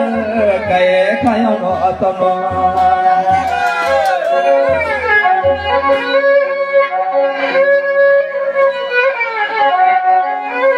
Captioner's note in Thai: ปรบมือ